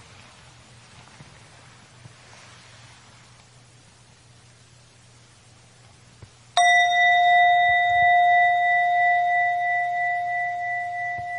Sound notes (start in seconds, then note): 6.6 bell chiming